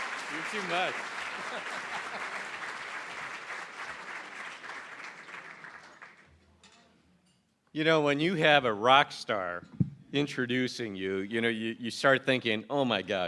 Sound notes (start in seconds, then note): 0.0 cheering & Applause